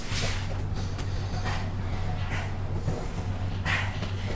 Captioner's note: unfit man breathing heavily